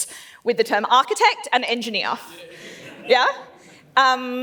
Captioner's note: laughs